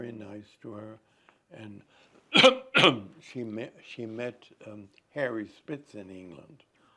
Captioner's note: coughing